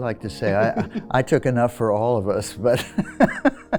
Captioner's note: laughs